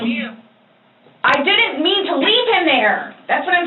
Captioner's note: shouting